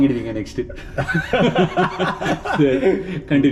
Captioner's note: laughs